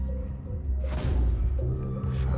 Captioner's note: gun fires